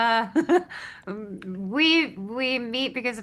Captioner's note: chuckles